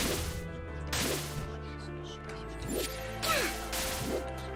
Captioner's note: creepy whispers